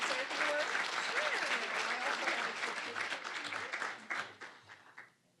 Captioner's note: applause